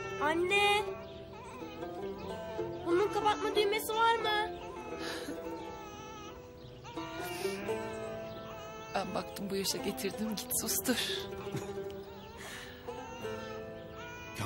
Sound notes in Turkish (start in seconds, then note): 1.1 bebek ağlama sesi̇; 4.5 bebek ağlama sesi̇; 11.1 bebek ağlama sesi̇